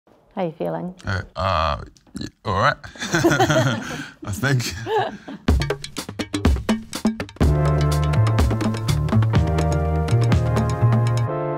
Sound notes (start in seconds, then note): 2.6 both laughing